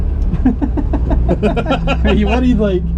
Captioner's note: chuckle; laugh